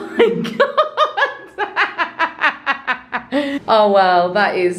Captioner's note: laughing